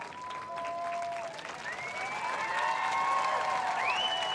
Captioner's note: applause